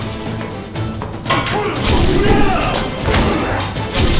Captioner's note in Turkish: Dövüş sesleri